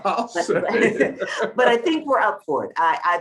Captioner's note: laughs